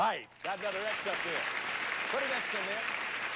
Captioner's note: audience applauding